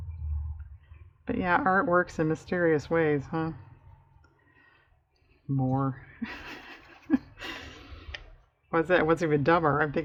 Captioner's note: laughs